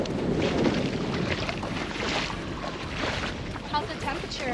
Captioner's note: water splashing